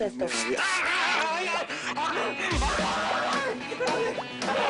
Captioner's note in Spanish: Sonido al rociar; Griterío